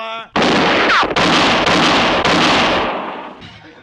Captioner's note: gunshots